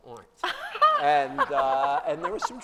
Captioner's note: laughter